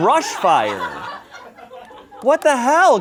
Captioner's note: laughter